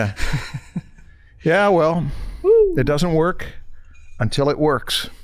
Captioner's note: chuckles